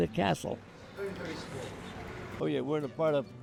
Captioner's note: indistinct chatter